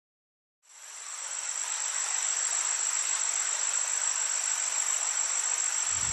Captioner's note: insects chirping; water running